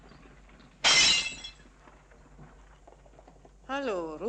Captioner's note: bottle crashes